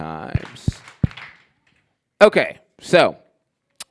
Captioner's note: clapping